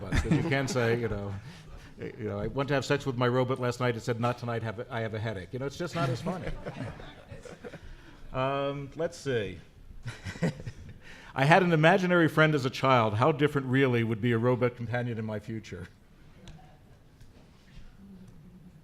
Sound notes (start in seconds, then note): 10.0 laughs